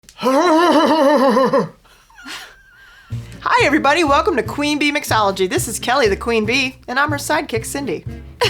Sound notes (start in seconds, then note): 0.2 laughing